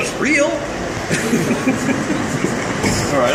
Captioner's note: laughing